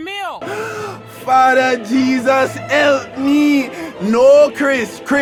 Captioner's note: gasps